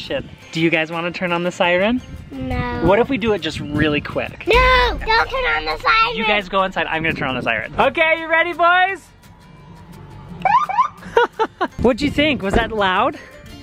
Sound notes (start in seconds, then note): 9.4 siren screeches